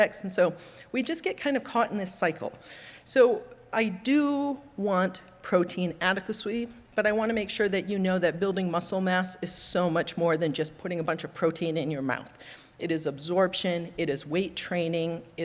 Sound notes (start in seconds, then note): none